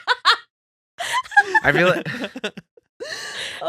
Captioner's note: laughing